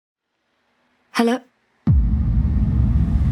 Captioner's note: Sahiba to Over Phone